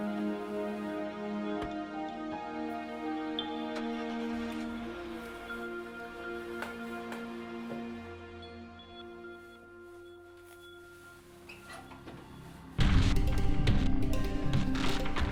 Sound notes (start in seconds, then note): 3.9 engine rumbles; 7.6 slow tense ambient music; 12.8 tense percussive music